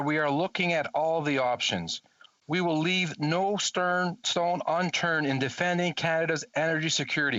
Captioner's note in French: voix de l'interprète